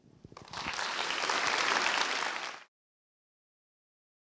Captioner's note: applause